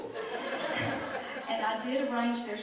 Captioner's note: audience laughs